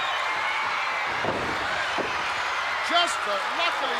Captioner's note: body thuds